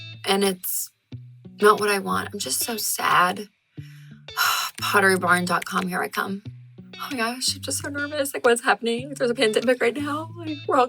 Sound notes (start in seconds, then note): 4.3 sighing